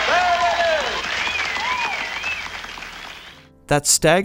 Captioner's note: crowd cheering